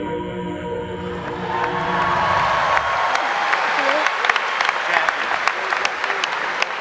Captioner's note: audience applauding; audience cheering